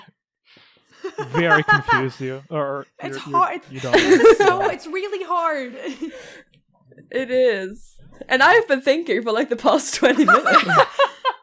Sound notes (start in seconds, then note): 1.4 small awkward silence that's broken up by laughing; 3.8 laughs; 10.0 laughter